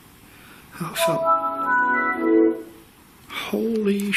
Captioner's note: computer noises